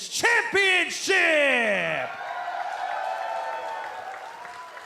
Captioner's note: cheers and applause